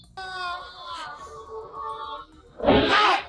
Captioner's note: screaming